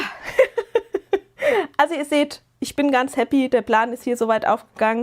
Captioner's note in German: gelächter